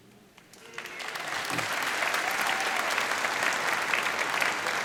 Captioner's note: applause